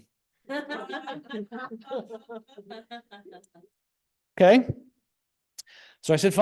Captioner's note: all laughing